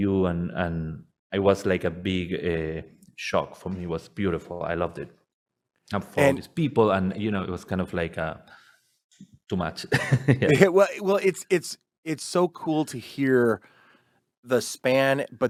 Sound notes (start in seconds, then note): 10.0 laughs